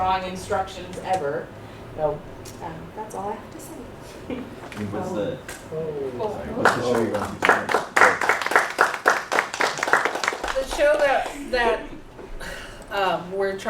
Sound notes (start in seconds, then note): 4.6 applause